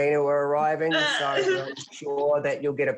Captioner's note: laughs